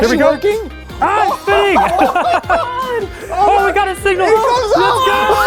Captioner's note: audience cheering